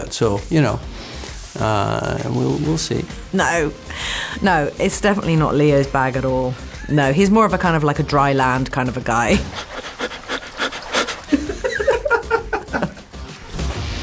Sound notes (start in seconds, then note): 9.4 shuddering breaths; 11.2 laughing